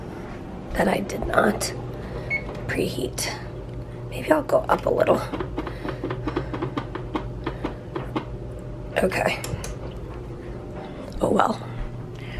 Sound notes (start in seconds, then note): 5.6 button mashing noise